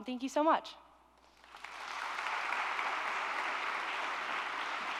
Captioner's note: applause